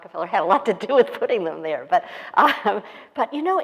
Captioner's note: laughs